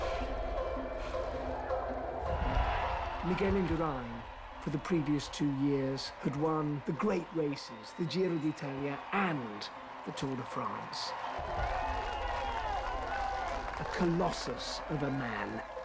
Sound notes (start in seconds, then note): 11.2 applause; 11.2 cheering